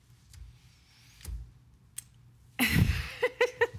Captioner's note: laughing; breathing deeply